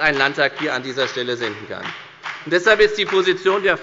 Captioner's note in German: Beifall bei der FDP